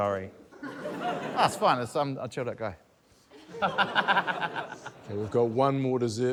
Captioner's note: laughter